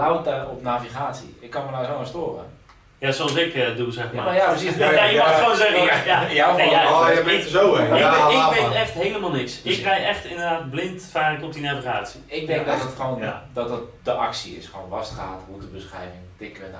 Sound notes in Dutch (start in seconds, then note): 4.6 lacht